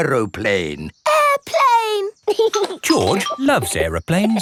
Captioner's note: giggling